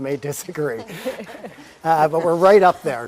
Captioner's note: laugh